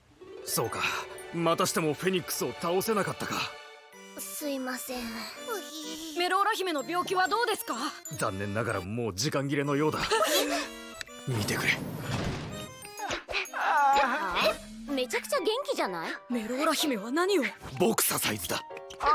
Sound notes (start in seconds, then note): 10.1 all gasp; 13.4 Melora grunting